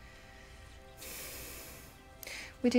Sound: sighs

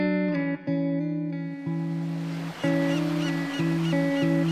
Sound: sea birds calling

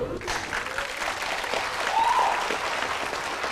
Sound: claps

